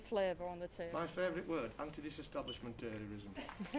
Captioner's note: laughter